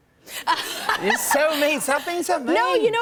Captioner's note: laughter